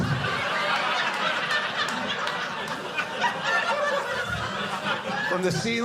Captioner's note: audience laughing